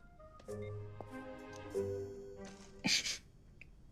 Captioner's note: phone beeping